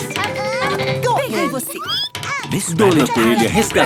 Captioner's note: squeaking